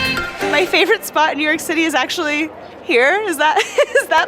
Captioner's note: laughs